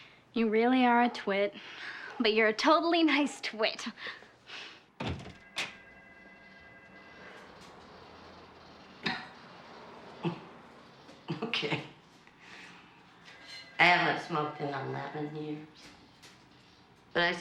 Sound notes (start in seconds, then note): 8.8 coughing